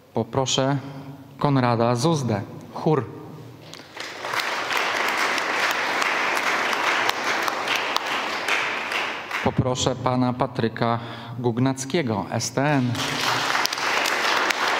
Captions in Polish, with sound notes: Poproszę Konrada Zuzdę, Chór. [oklaski] Poproszę pana Patryka Gugnackiego, STN.